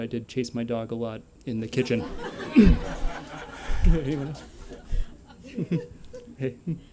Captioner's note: laughter